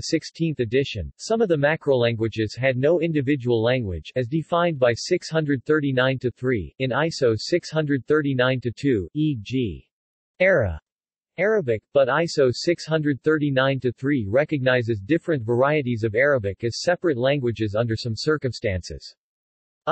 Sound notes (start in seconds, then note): 8.9 Arabic